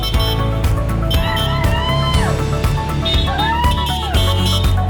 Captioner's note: crowd cheering